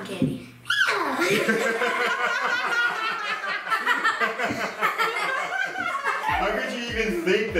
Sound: all laughing

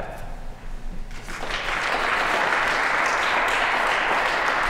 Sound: applause

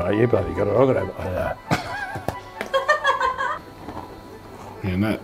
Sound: loudly chews a biscuit

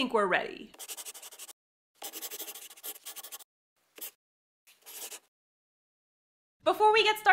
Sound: the sound of a pen scratching. LOGO

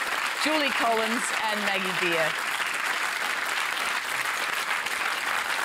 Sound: applause

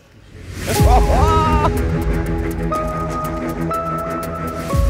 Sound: excited laughing

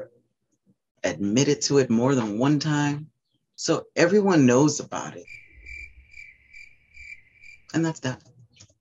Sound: crickets

